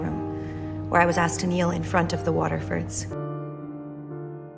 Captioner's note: voiceover